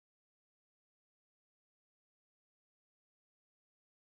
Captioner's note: none